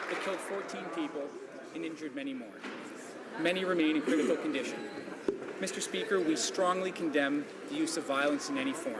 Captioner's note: some Applause